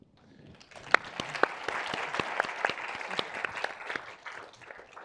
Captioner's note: audience applauding